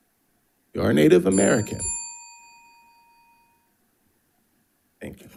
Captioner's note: bell dinging